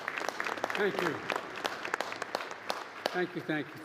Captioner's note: applause